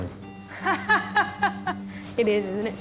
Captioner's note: laughs